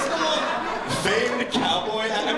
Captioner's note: laughter